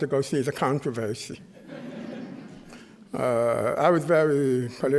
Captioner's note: chuckling